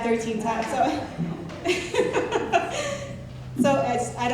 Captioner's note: laughing